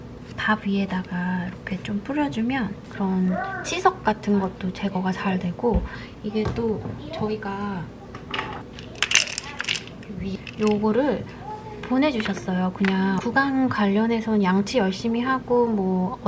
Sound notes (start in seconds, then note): 8.4 rummage